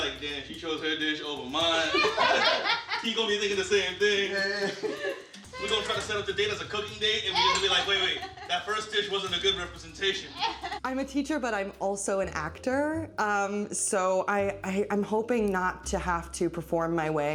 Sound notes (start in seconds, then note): 1.7 all laughing